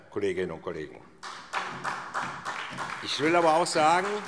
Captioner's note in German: Beifall SPD